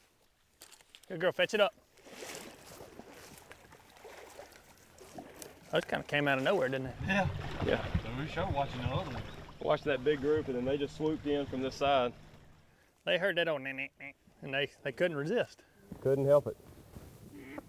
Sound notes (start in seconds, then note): 2.4 water sloshing; 13.7 imitates duck quacking